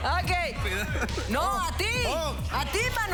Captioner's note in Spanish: Aplausos; Risas